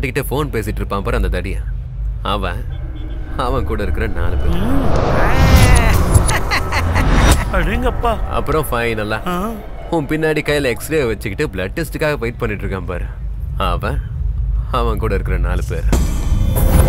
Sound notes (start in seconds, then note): 5.3 laughs